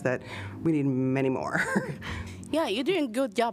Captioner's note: laughter